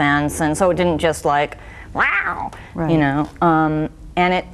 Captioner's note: roars softly